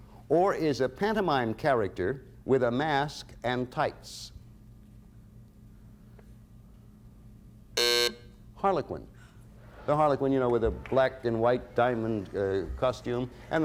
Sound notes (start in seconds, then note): 7.7 buzzer sounds